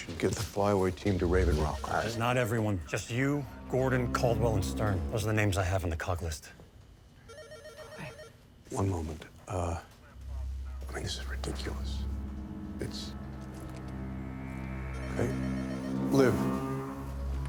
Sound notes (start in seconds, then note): 7.2 phone ringing; 13.4 brooding music